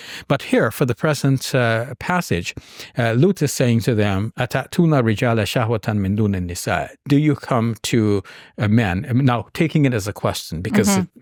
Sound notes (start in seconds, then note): 4.8 speaking in Arabic